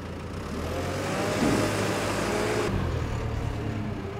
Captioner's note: engine revving